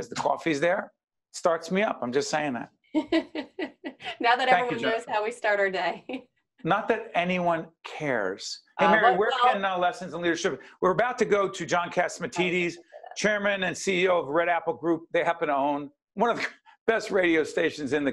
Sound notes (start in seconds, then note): 3.0 laughing